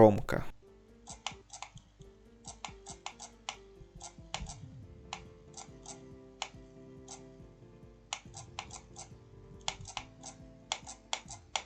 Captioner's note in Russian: звуки игры